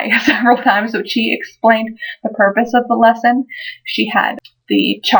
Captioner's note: laugh